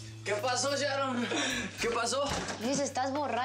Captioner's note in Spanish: risas